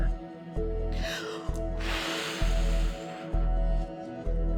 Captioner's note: heavy exhale